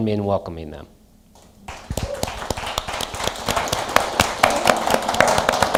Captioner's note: applause